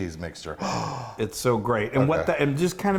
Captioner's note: sighing